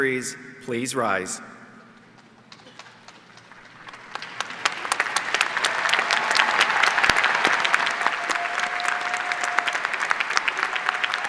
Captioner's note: applause